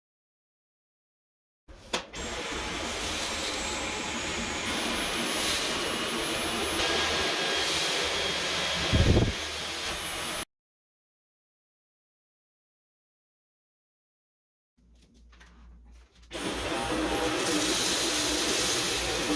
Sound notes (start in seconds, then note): 16.4 stronger suction